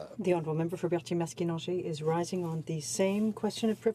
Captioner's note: speaking French